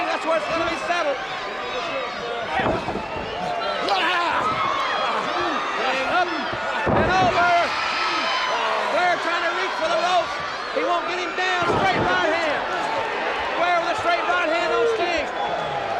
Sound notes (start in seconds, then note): 3.2 Ric exclaiming; 7.8 crowd cheering